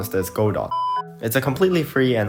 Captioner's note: beep